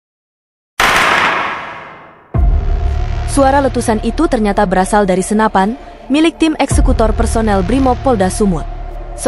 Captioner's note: sound of gun